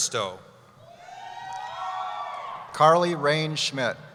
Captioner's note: cheering